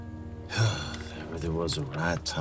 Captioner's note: sighs